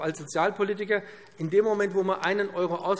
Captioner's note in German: none